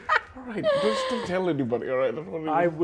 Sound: laughing

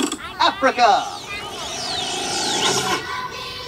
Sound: crank noises; machine noises; african themed music

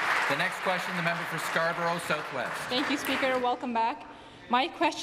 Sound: applause

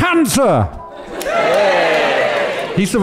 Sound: audience cheers

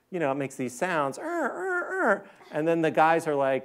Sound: squeaking sound

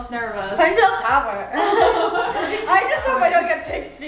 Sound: laughing

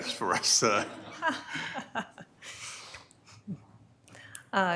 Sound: all laughing

